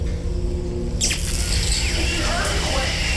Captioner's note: zapping